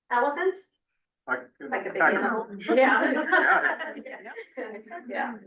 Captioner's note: laughs